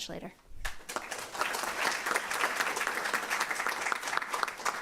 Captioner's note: applause